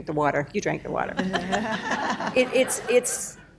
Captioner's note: laughter